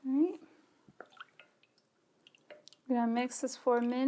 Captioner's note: liquid ripples